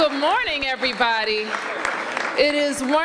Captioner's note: applause